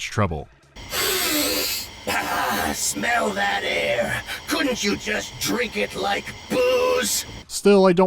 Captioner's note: de-ep cyber-inhale